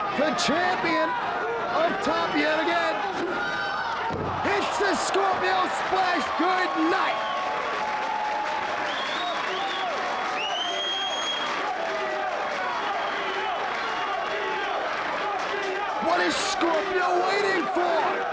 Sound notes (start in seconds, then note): 11.9 crowd chanting